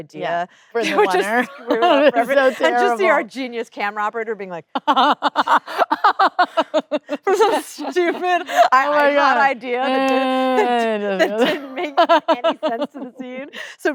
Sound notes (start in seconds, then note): 4.8 Kate laughing; 5.1 sighing